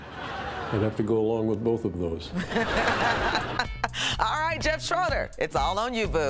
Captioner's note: laughter